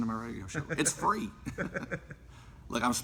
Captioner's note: laughter